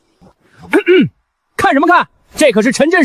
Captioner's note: cough